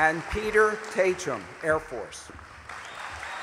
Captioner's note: applause